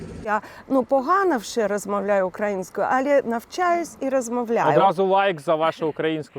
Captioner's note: in Ukrainian